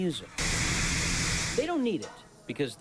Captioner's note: food sizzling